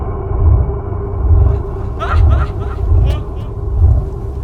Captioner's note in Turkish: uzaktan sesler